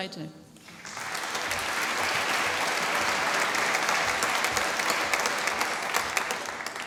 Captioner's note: applause